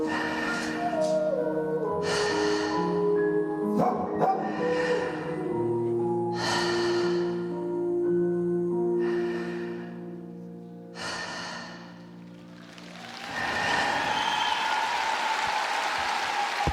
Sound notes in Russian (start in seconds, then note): 5.3 вздыхает; 8.6 тяжело вздыхает